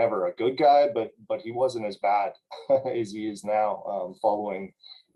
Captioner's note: laughter